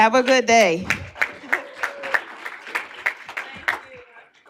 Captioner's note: applause